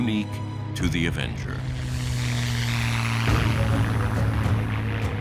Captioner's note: plane engine